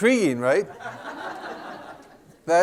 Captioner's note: laughter